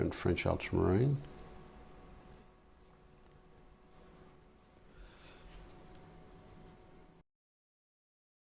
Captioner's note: silence